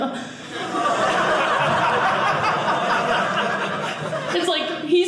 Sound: audience laughing

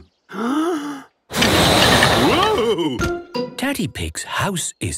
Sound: inhaling deeply; blowing

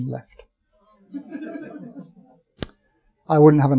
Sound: audience chuckling

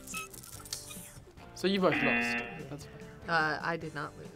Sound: buzzer rings

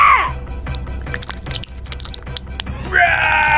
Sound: sloppy wet sounds

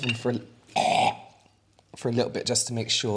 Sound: gagging

